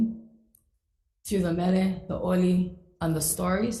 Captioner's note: speaks foreign language